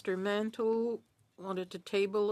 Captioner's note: speaking French